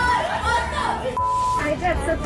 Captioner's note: beeping